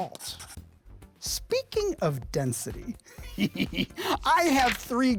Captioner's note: laughs